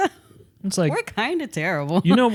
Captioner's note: laughs